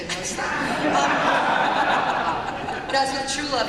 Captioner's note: laughter